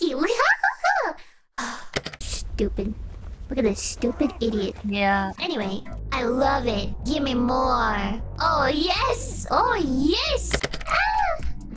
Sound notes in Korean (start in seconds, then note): 1.6 한숨